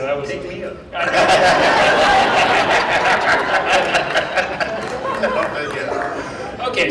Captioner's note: laughing